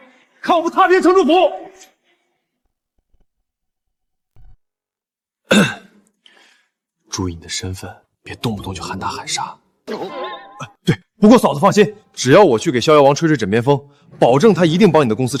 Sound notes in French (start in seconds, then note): 5.4 Tousse